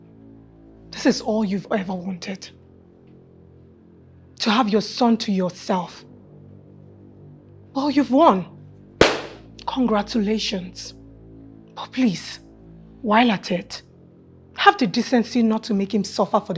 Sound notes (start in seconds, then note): 9.0 claps